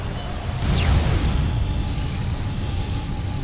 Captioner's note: magical whoosh